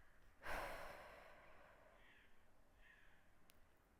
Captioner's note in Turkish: iç çeker